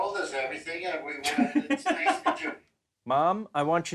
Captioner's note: laughs